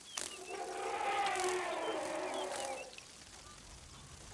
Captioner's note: elephant trumpets